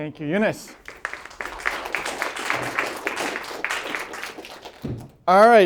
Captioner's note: applause